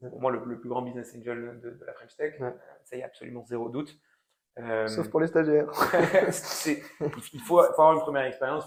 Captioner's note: laughing